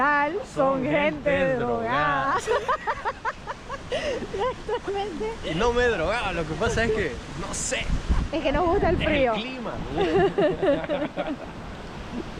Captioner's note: laughs